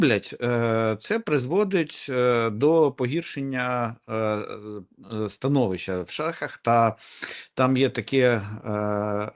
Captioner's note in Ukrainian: сопіння